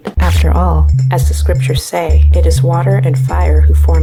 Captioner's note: scratch